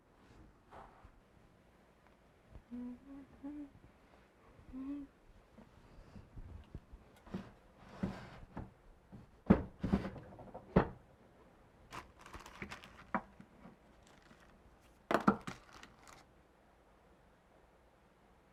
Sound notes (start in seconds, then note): 2.6 Elvis humming; 9.6 drawer clattering